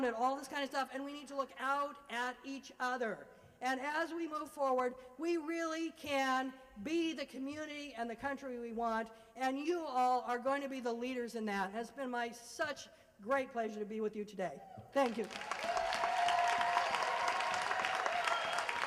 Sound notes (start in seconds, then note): 15.0 applause